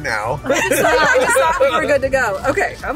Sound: laughing

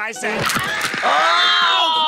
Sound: Squidward screaming

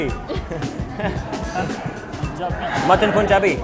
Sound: laughing

